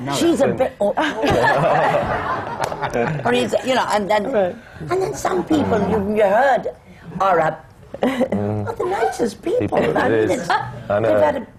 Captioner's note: laughter